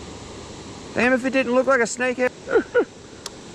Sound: laughter

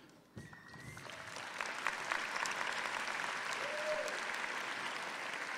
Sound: audience applauding

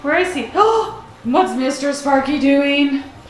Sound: gasps

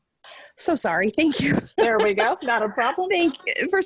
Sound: laughing

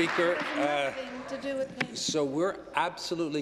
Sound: applause

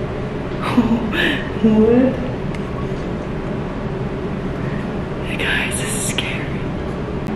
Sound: air vent in the background; laughs; whispers

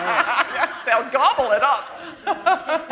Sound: laughter

